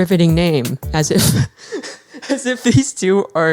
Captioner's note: laughs